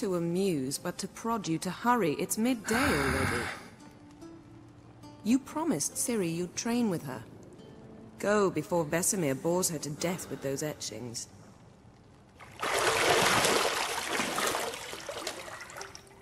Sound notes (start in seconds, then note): 2.7 frustrated sigh